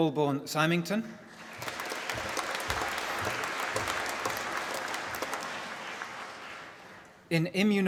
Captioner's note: applause